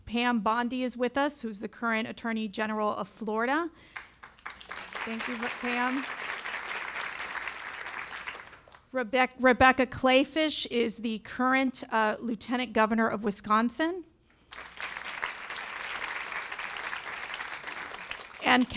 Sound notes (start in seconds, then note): 3.9 applause; 14.4 applause